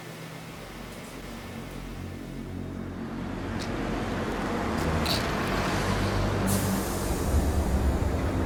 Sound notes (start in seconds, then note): 1.8 suspenseful music; 4.0 traffic humming